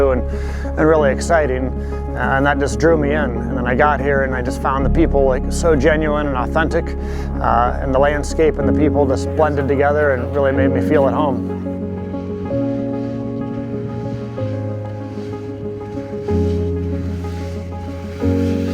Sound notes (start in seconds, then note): 12.4 majestic music; 15.4 skis scraping